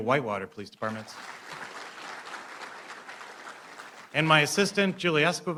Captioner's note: applause